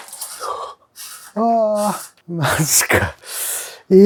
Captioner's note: laughs